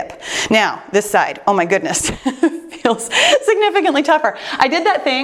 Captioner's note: laughs